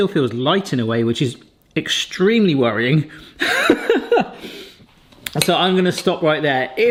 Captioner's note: laughs